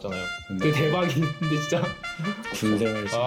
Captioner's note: oh good ol' days... / Army morning horns